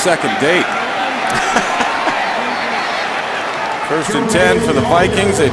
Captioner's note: laughter